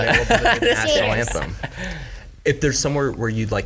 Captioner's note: laughing